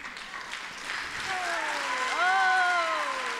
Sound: applause

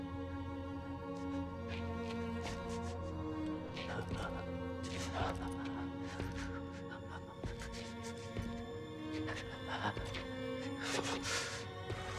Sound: shivering breaths

